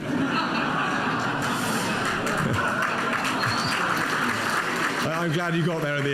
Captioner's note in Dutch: publiek lacht en applaudisseert